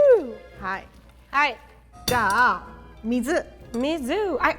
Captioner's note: speaking in Japanese